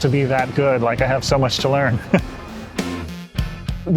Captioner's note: laughs